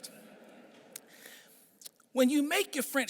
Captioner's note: audience chuckling